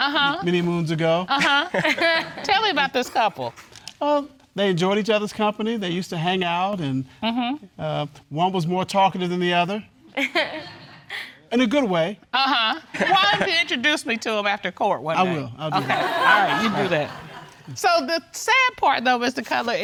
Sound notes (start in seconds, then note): 10.3 audience chuckles; 15.7 audience laughs